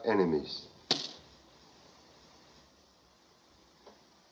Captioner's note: object Clatters